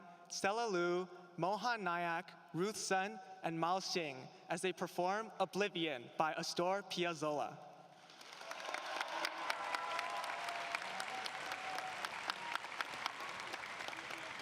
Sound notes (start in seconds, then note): 8.0 applause